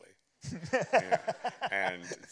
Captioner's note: laughter